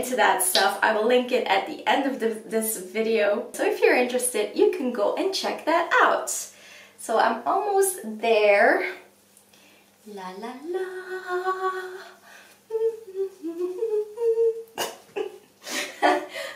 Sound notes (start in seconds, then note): 12.6 hums; 14.8 laughs